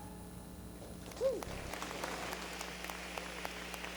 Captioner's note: applause